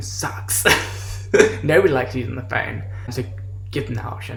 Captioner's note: laughs